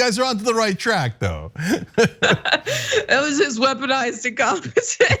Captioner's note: laugh; laugh